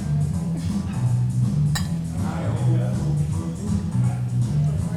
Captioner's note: glasses clink